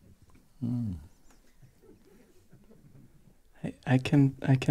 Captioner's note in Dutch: zacht gelach